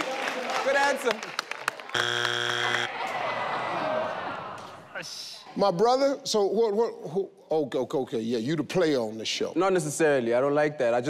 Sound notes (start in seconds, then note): 1.9 audience groans; 1.9 board buzzes